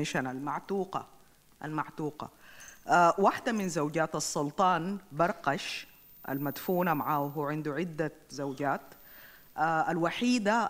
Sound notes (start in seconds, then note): 2.9 speaks in foreign language